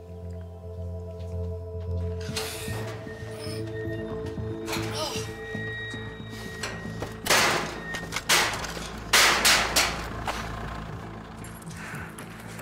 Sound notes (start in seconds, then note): 4.8 stifled scream; 7.3 banging; 10.8 car engine